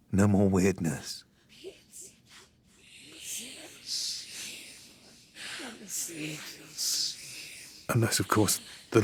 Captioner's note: ghostly voices